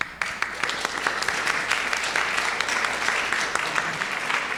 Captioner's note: audience applauding